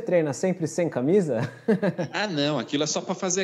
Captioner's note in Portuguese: Risos